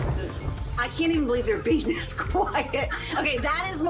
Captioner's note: laughs